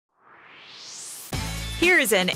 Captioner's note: swoosh